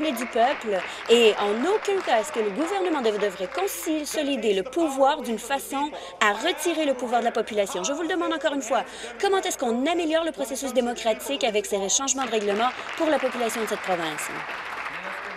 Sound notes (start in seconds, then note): 4.6 applause